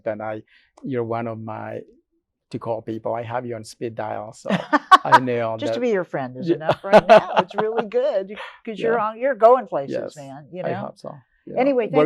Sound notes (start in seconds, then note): 4.5 laughs